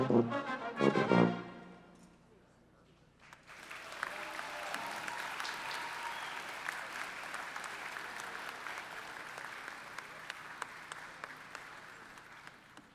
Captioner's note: applause